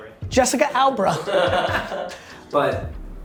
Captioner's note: group laughter